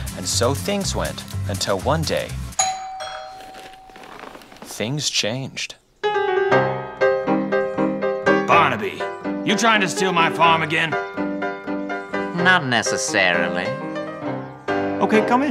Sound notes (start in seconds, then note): 2.6 doorbell rings; 6.3 saloon piano plays